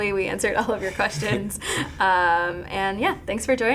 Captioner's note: laughing